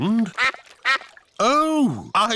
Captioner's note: quacking